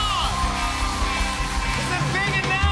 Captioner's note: cheers and applause